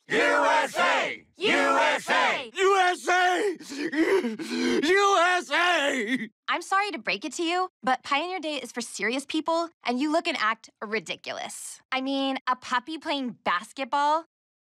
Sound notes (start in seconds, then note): 2.5 sobbing